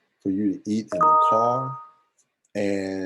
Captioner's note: beep